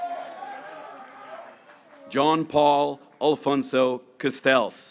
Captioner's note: graduates cheering